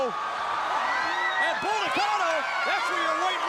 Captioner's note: crowd cheering